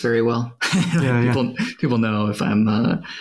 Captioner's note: laughs